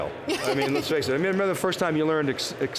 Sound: laughing

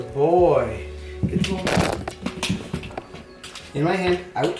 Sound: rustling

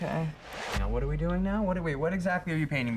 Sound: whoosh

